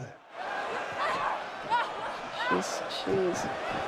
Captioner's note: crowd cheering